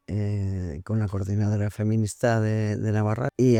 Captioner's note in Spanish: Voz off - IG